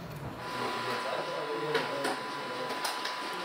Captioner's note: whirring, clattering